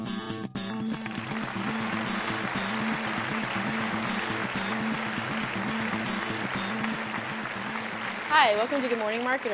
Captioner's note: applause